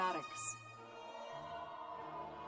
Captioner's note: cheers and applause